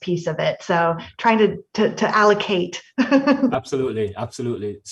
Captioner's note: laughs